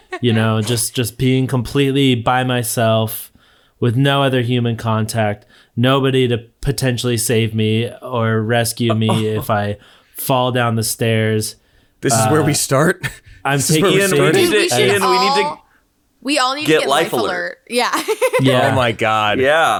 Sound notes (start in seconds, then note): 0.0 all laughing; 13.4 everyone talking; 17.7 laughs